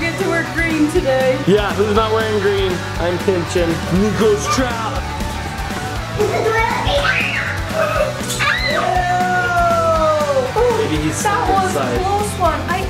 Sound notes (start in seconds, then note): 6.2 shrieks